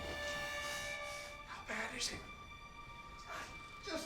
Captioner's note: whispering